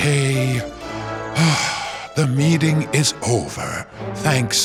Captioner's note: sighs